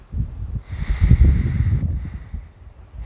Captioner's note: deep breathing